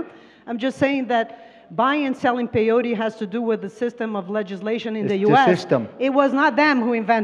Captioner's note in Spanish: Traductora habla en inglés